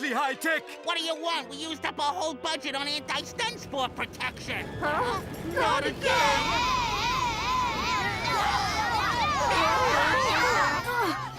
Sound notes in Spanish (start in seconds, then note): 5.4 gritan; 6.5 furioso